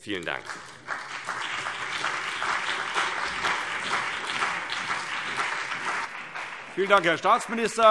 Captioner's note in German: Lebhafter Beifall CDU und BÜNDNIS 90/DIE GRÜNEN